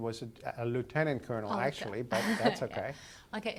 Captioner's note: laugh